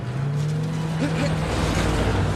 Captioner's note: exclaims